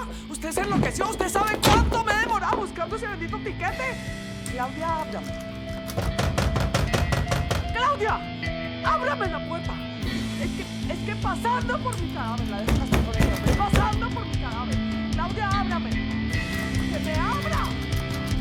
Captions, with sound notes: Did you go crazy? Do you know how much effort it took me to get that damn ticket? Claudia! Open that door! Claudia! Open that door! Over my dead body you are getting married with that guy. - Over my dead body! - [banging on the door] Claudia, open the door!